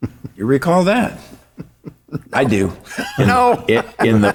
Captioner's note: chuckling